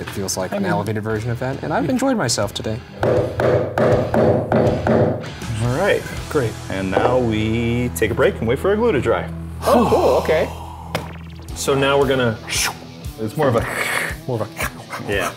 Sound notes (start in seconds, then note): 2.9 wedge hammering in; 9.6 sighs; 13.9 imitates sawing